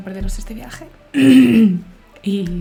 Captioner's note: clears her throat